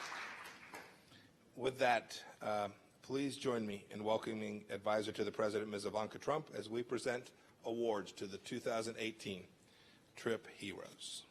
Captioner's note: applause